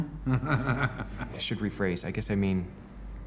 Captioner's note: laughs